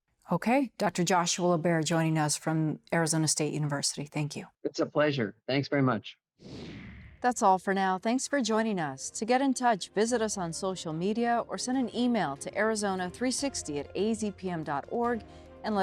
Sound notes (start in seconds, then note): 6.5 air whooshing